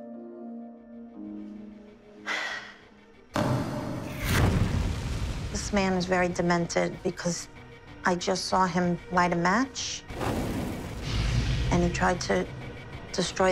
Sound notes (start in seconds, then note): 2.2 sighs